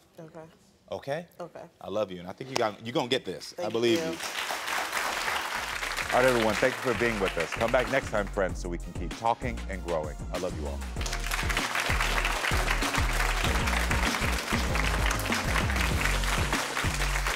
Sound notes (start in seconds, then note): 3.8 audience applauds; 10.9 audience applauds; 11.1 upbeat music